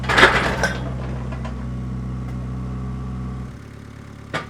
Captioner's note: wood crashing down on trailer; engine running calmly